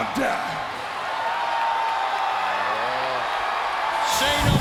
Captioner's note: audience cheering